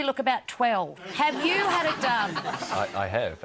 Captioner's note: audience laughs